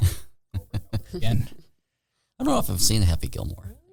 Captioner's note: laughing